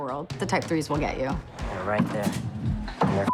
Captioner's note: scratching, groaning